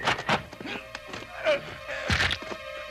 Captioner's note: groaning